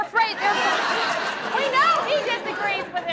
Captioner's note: audience laughs